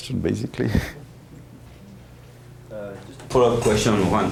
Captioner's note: chuckles